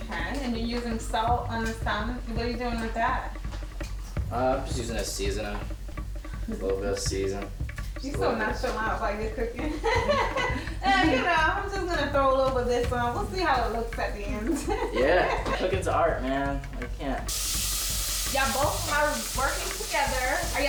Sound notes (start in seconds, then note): 9.6 laughing; 14.3 laughing